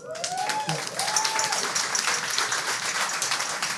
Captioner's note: audience cheers